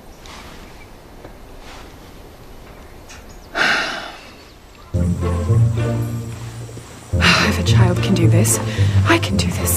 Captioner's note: sighs